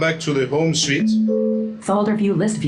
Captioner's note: computer chimes